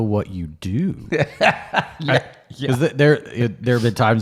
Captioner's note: laughs